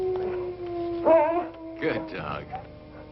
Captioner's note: dog yelps